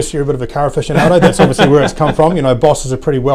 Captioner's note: laughing